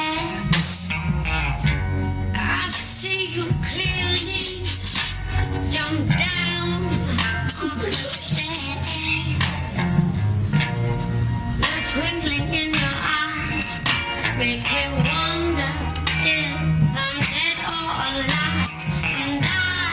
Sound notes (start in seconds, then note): 4.4 cloth ripping; 7.0 retching